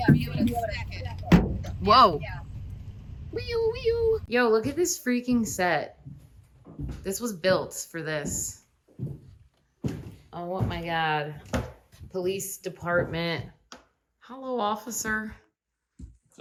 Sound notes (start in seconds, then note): 3.2 siren noises